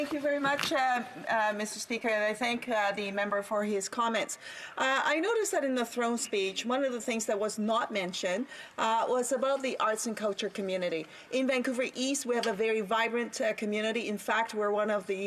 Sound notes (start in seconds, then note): 5.8 speaking French